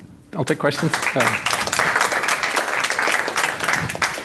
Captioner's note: applause